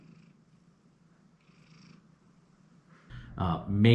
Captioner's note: Monty purring